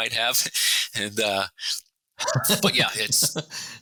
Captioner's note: laughing